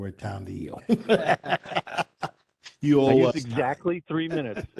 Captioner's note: laughter